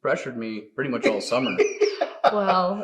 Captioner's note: laughing